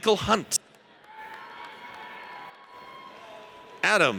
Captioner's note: audience cheers